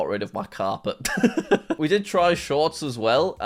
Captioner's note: laughs